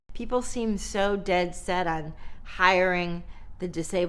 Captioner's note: none